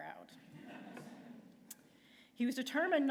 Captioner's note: laughter